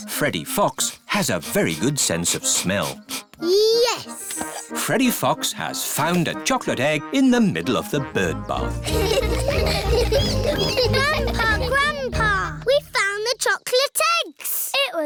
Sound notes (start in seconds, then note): 0.0 sniffs; 8.8 all laughing